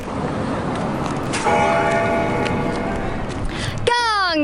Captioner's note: bell ringing